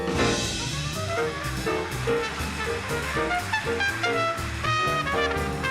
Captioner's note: audience applauding